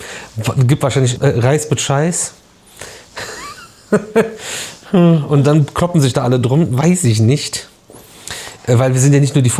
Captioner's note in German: gelächter